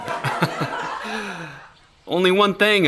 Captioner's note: laughs